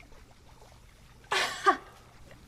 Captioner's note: laughs